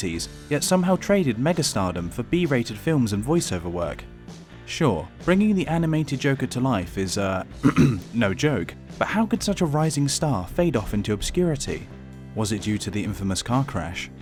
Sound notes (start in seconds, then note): 7.6 cough